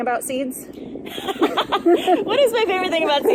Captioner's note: laughs